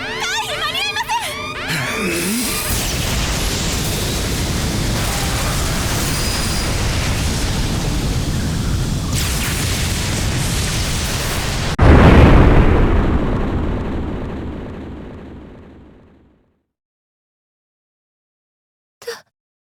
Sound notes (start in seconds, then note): 1.6 powerup grunt; 17.6 shocked silence